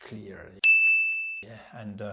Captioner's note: pinging sound